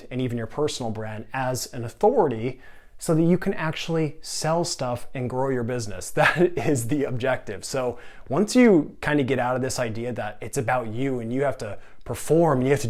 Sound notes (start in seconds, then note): 6.2 giggling